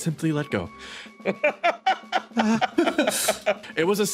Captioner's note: laughs